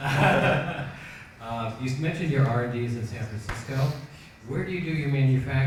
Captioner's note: laughs